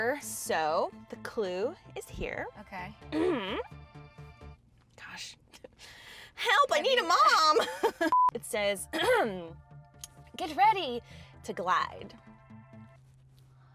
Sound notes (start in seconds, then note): 7.4 laughs; 8.9 coughs